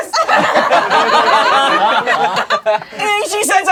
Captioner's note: crowd laughing